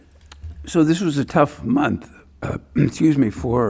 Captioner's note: clears throat